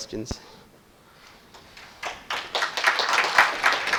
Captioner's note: audience applauds